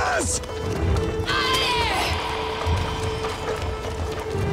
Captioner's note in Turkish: Kağnı Sesleri